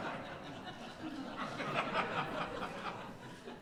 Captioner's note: laughter